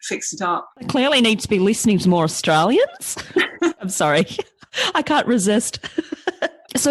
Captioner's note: mock aussie accent